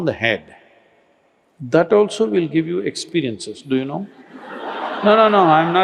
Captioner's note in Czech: Smích